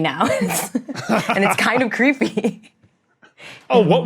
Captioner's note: laugh